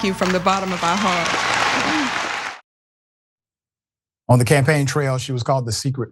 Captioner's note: applause